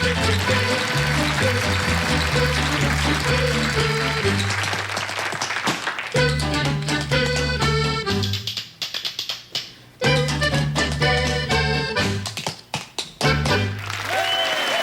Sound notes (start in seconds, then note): 3.6 applause